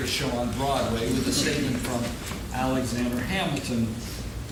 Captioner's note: laughing